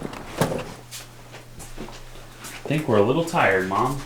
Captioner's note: muffled footsteps